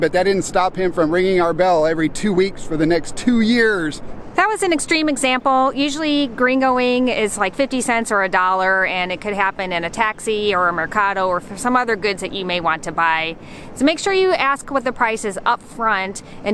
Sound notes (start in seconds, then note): none